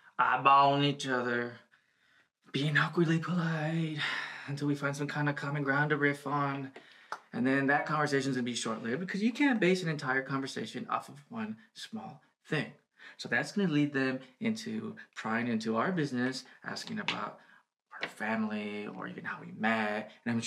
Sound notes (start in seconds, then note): 3.9 he sighs